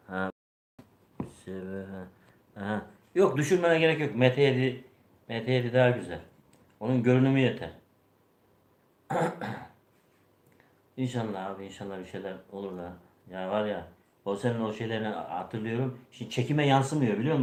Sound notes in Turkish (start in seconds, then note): 9.0 öksürme; 9.1 boğazını temizler